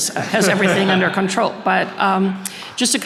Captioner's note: audience laughing